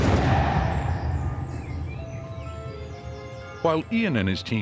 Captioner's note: birds chirping